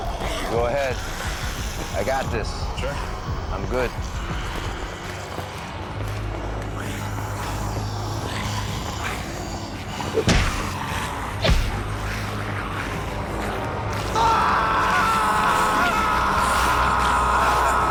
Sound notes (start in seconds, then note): 14.1 Paul screaming